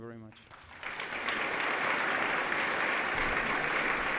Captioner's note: applause